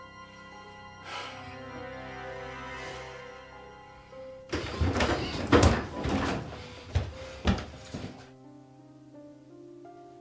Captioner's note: heavy breathing